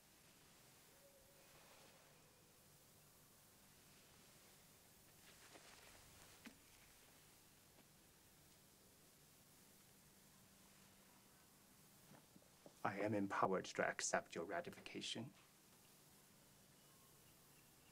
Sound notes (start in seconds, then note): none